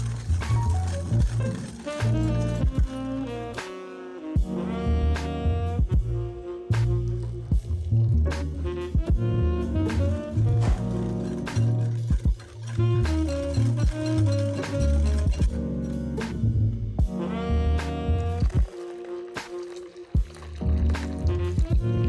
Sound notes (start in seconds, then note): 13.6 whisk, whisk